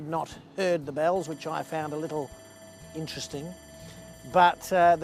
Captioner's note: electronic bell rings